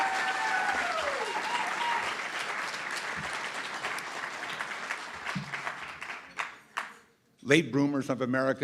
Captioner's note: cheering & Applause